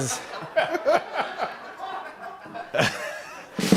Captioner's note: laughter; rim shot